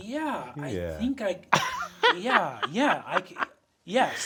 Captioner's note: Sam laughing